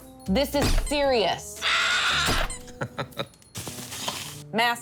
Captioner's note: bird squawks; mallet squeaks; Buddy chuckles